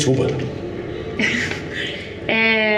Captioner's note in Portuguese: risos